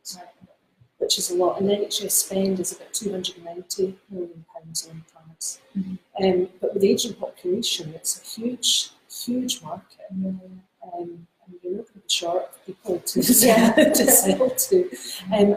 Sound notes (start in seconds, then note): 13.2 laughs